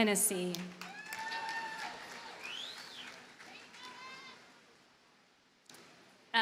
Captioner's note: audience cheers and applauds